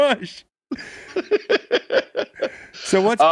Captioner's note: laughing